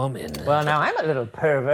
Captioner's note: projector clicking